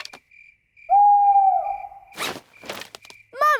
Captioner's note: hooting